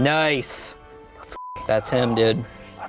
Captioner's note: beep